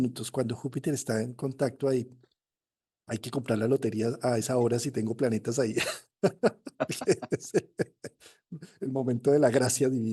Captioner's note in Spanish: risas